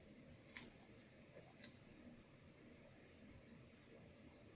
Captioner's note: noise of tape peeling up